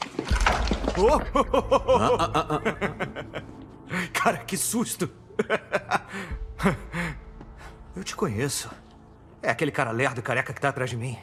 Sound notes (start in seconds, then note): 1.0 chuckling; 3.3 tuts; 3.7 in English; 5.8 chuckles